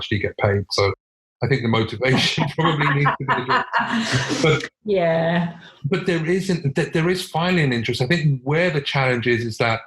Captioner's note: laughs